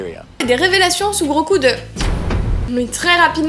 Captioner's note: revelations sound